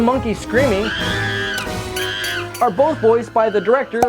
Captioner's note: monkey screams